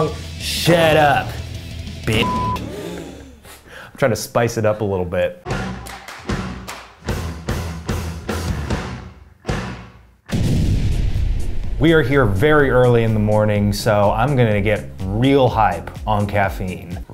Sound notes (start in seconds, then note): 2.6 people off camera gasp; 5.5 upbeat music; 10.3 explosion